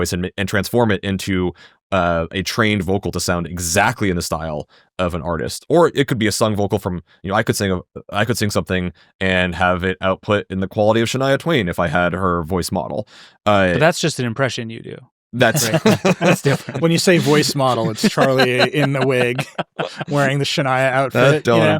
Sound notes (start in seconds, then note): 15.4 laughing